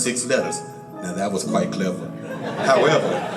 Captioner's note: audience laughs and claps